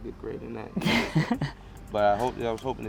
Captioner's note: laughs